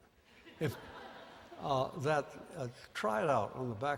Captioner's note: laughter